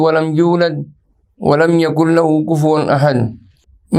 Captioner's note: arabic